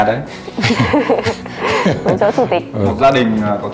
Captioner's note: laugh